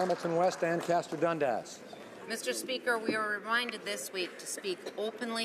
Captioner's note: applause